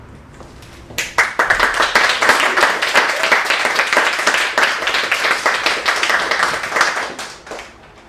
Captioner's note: applause